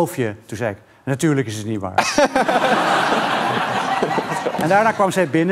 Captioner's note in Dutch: gelach